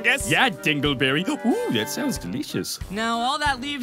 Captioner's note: gasp